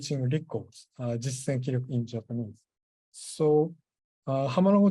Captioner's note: japanese